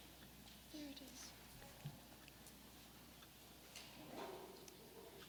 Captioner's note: light whispering